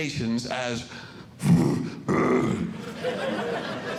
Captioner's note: growling; audience Laughing